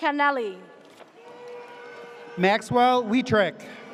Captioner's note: audience cheers